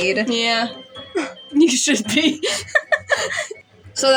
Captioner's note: laugh; chuckle